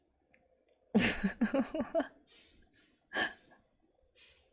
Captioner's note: laughs